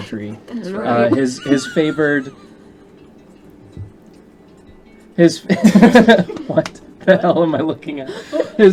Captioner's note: whispered "what the hell am I looking at?"